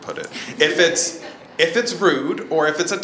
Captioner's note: audience laughs